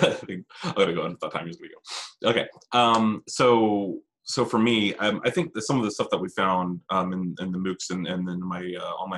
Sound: laughing

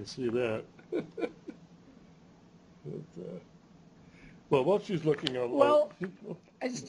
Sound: chuckles

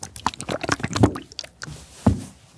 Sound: thump

